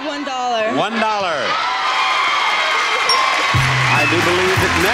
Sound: audience cheers

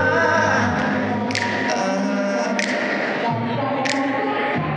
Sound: snapping

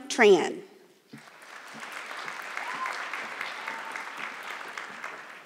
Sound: audience clapping

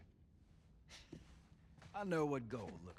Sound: laugh

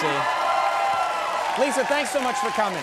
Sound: audience cheering

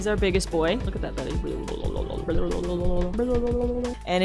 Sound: makes wobble noises

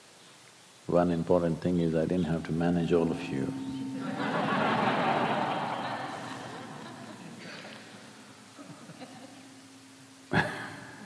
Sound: laughter

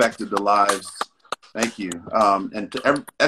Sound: Jay clapping

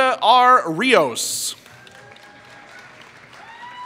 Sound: applause

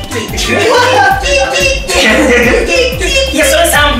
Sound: monkey sounds; monkey sounds with rhythm

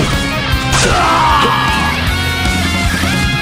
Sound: fatal scream

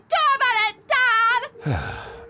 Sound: sighs

